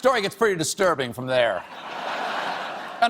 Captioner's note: laughter